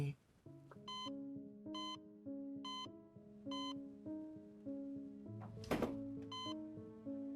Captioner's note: reflective music; machine beeping